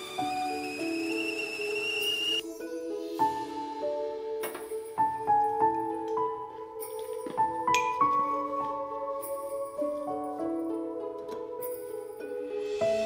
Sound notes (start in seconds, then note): 0.0 kettle whistles; 7.7 clinking